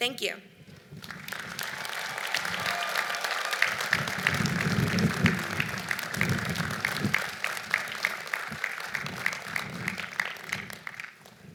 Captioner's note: applause